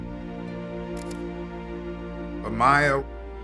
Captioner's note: camera clicking